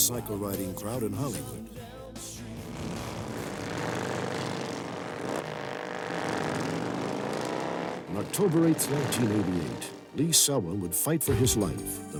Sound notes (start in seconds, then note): 1.7 motorcycle sounds